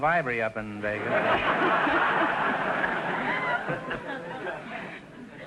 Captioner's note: audience laughter